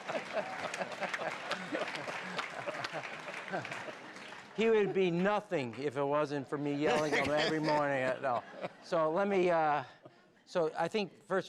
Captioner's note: laughter